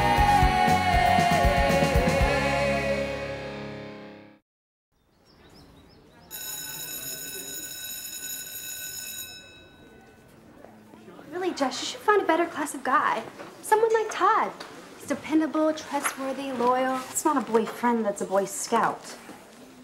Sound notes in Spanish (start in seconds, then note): 4.9 pájaros trinando; 6.3 Campana sonando